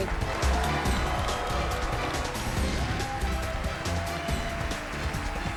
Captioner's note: cheers and applause